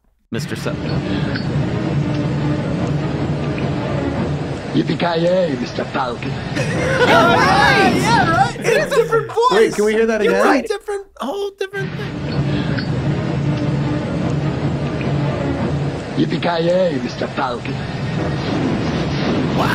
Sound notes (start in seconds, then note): 1.6 whirring noise; 12.2 whirring noise